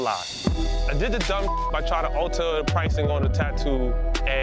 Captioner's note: beeps